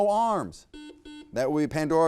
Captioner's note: buzzer beeps